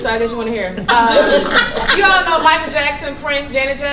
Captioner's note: laughter